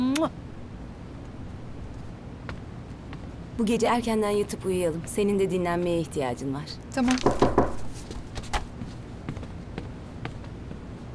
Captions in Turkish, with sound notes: Bu gece erkenden yatıp uyuyalım. Senin de dinlenmeye ihtiyacın var. [kapı sesi]